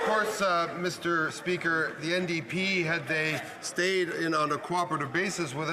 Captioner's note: some Applause